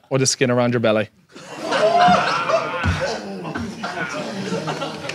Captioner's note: audience laughs